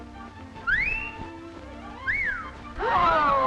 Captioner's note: upbeat music; Minerva whistling; group gasping